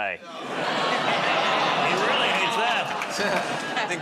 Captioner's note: audience "Aw"s